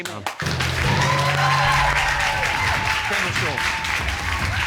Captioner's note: audience cheering